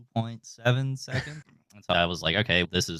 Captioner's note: laughing